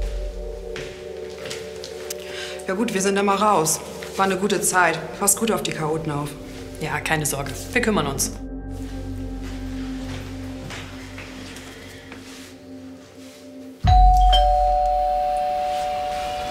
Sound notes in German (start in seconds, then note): 13.8 Türklingel